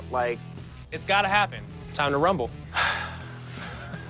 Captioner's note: sighs